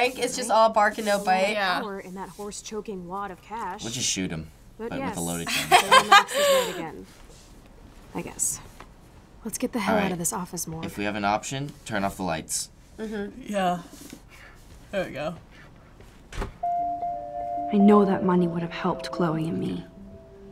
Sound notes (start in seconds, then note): 5.5 laughs; 13.5 sleepily